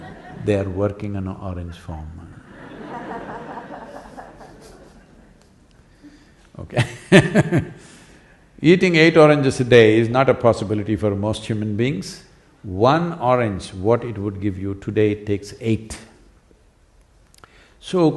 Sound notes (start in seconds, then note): 0.0 laughter; 5.1 laughter; 7.0 laughs